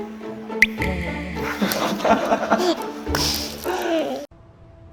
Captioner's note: crying again 💧